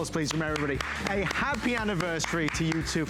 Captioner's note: applause